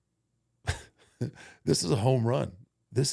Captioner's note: Undertaker chuckles